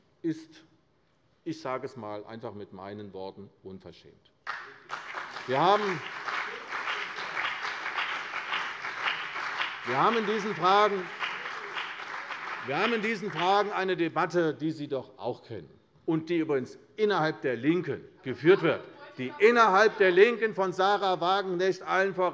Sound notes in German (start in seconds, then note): 4.4 Beifall CDU und BÜNDNIS 90/DIE GRÜNEN